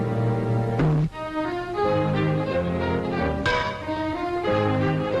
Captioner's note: blows thudding